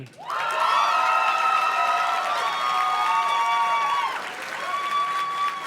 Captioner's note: audience cheers and claps